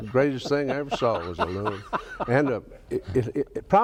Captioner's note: laughs